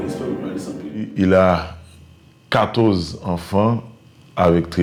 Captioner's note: French spoken audio